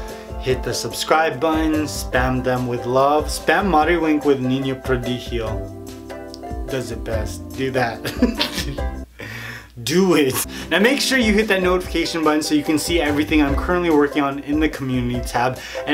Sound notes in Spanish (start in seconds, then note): 8.0 Risas